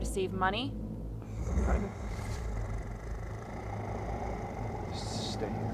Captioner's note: werewolf growls